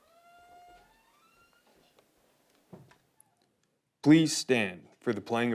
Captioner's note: door squeaking